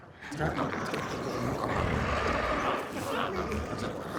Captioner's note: glowzies growling